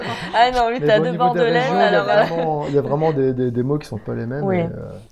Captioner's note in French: rire